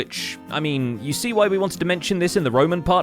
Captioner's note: none